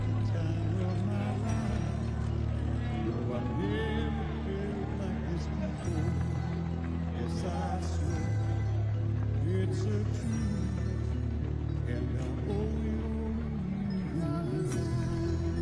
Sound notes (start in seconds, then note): 1.3 applause